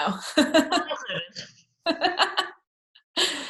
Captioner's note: laughs